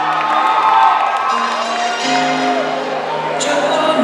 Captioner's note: cheers and applause